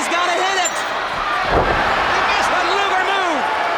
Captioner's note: crowd clamoring; body thudding